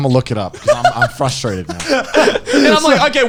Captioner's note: laughing